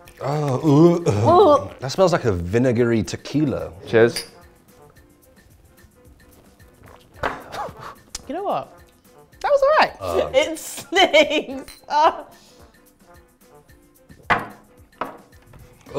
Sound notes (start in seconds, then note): 0.1 gagging; 4.1 glass clinking; 6.5 glugging; 7.3 glass thuds; 7.4 laughing; 10.0 laughs; 11.6 glass clinking; 14.2 glass thuds